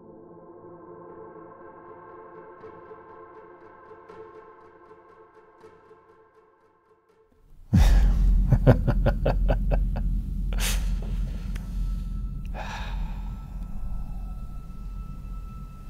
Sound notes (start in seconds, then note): 0.0 unsettling dramatic music continues; 7.7 man laughing; 12.1 foreboding minimal music